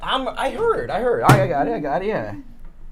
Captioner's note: none